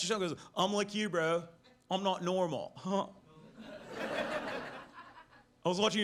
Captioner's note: laughs